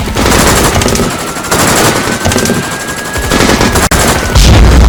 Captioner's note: siren wails